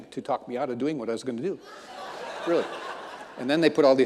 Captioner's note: audience laughing